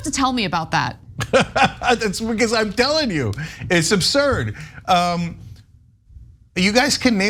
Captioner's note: laugh